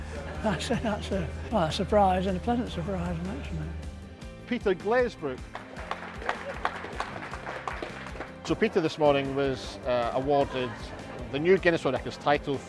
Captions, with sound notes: So that's a surprise and a pleasant surprise. Peter Glazebrook! (clapping) So Peter, this morning was awarded the new Guinness World Records title